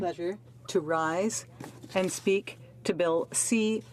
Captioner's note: speaking French